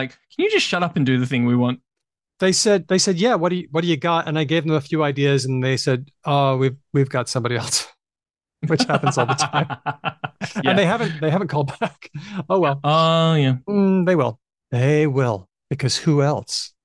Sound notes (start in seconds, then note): 8.6 laughs